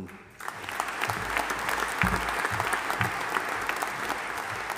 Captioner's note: audience applauding